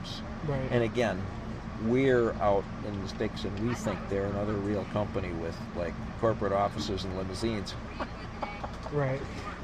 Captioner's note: laughs